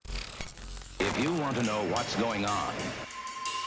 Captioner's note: static screeching; upbeat music